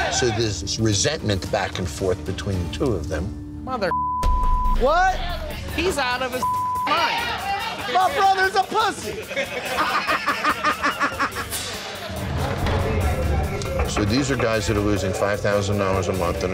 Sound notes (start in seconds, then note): 3.9 beep; 6.4 beep